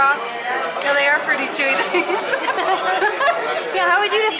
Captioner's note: laughter